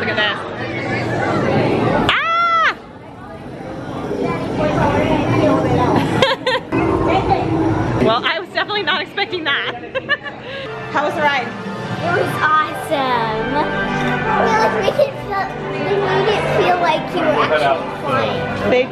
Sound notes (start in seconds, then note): 2.2 yells; 6.0 laughs; 9.6 laughs